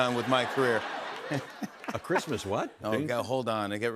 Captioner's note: laughter and applause